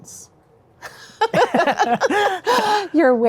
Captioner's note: both chuckle